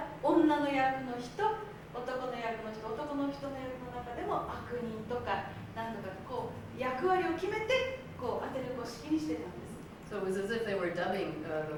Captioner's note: speaking Japanes